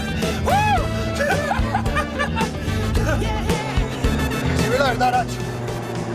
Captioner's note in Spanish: Ruido de la avioneta